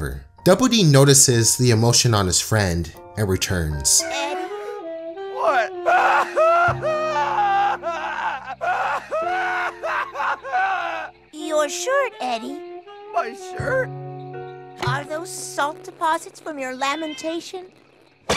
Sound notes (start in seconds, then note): 5.3 crying sounds